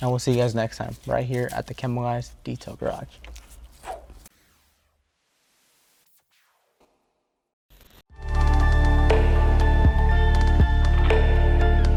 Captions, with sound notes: and we'll see you guys next time right here at The Chemical Guys Detail Garage. (makes whooshing sound) (bright electronic music)